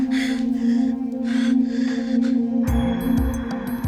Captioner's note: breathing heavily